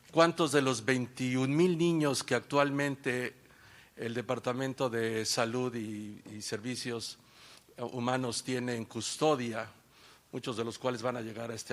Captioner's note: speaking spanish